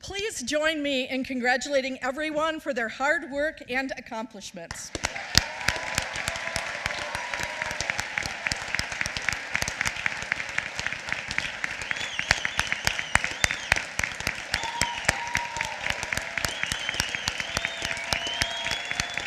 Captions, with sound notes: Please join me in congratulating everyone for their hard work and accomplishments. (applause)